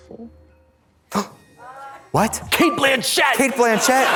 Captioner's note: gasps; audience laughs